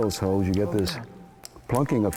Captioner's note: sound of popping